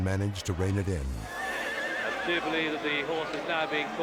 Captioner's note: horse neighing